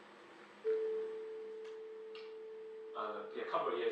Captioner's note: he plays 440 hz sine wave